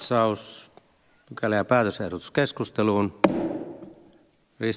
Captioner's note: Nuijan kopautus